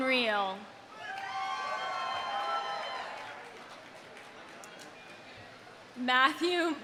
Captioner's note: audience cheering; audience applauding